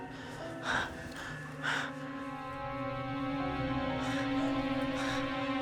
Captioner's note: Claire breathing heavily; suspenseful music